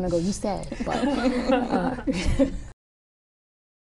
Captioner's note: laughter